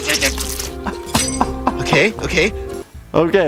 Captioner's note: laughing